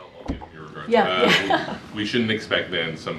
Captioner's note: laughs